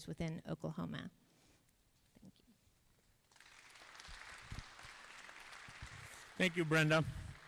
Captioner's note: applause